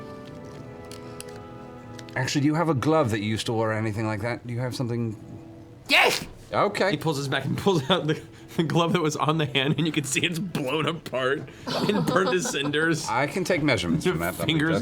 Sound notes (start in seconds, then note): 11.1 laughing